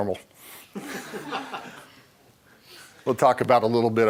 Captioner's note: laughter